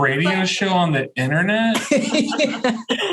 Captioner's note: laughter